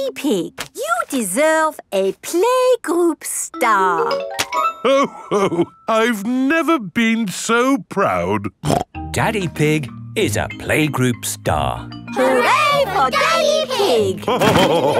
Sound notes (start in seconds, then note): 8.6 snorts